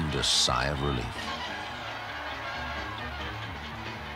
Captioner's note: crowds cheering